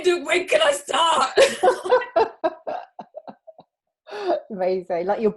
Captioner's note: both laughing